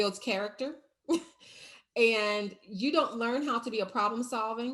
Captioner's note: chuckles